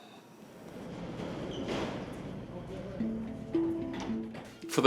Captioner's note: objects knocking